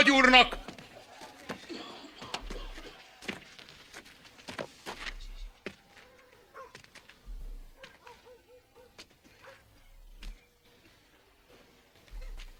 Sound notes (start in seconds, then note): 4.1 crowd goes silent; 4.1 distant dog barking